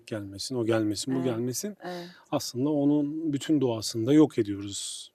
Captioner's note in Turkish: homurdanır